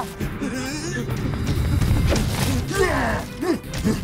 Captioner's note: Amato screaming